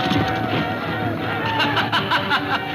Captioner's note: laughing